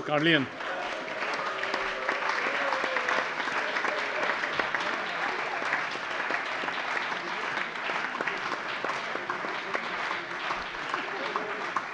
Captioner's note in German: Lebhafter allgemeiner Beifall